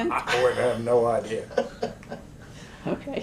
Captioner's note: laughs